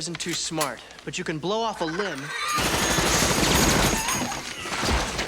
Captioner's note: gunfire popping